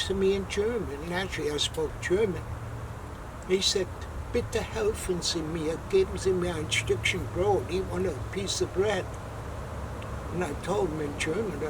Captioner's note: in German